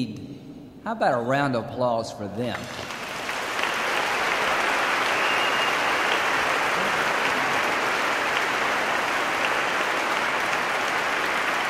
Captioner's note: cheers, applause